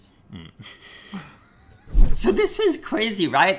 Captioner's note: laughing